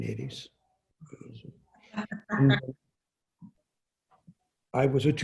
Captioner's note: laughing